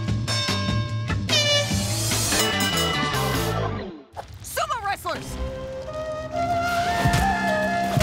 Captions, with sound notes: [horn blowing] Sumo wrestlers! [Japanese music playing]